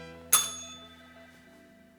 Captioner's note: bell rings